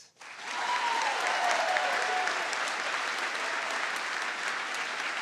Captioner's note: audience applauds